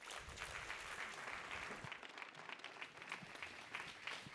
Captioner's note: applause